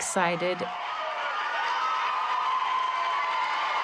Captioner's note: crowd cheering